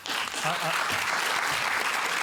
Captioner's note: applause